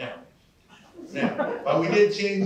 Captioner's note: laughter